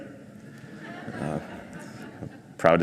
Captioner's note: crowd laughs